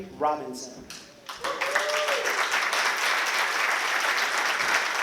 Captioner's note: applause